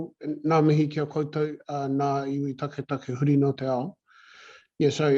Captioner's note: speaking Māori